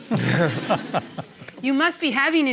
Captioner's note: laughter